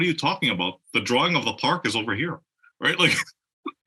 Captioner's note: laugh